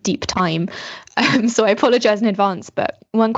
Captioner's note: laughs